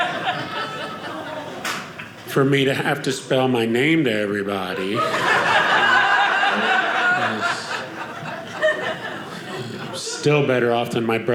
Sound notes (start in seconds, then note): 4.7 audience laughing